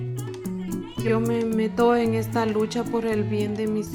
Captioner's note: in Spanish